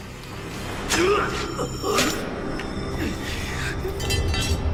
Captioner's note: both gasping